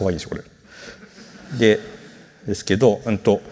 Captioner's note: laughter